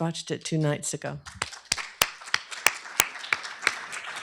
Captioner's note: applause